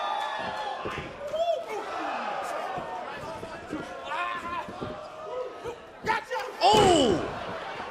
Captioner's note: cheers & applause